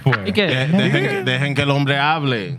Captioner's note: speaking Spanish